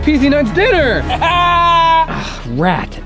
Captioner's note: laughing